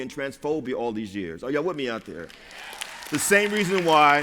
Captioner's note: applause